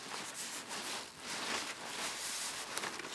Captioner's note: rusting